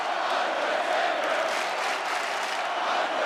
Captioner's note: audience clapping